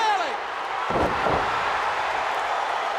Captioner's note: floorboard bouncing; crowd cheering